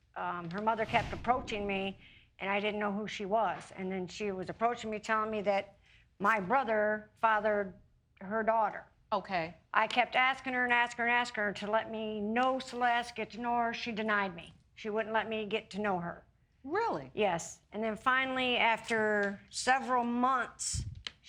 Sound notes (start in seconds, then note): none